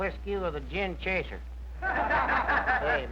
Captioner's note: laughter